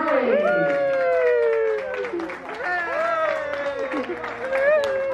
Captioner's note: cast members applaud and cheer